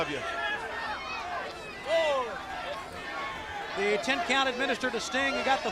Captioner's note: crowd chatter